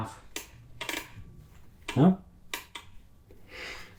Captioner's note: fuel solenoid clicking